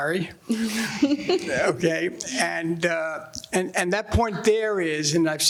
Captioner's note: laughing